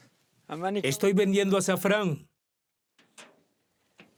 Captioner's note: Arabic spoken audio